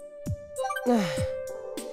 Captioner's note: sigh